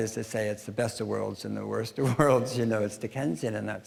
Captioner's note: chuckling